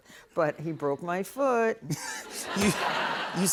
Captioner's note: laughter